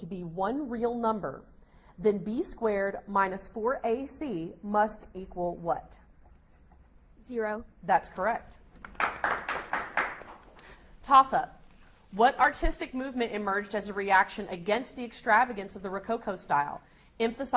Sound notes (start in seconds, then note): 8.8 audience applauds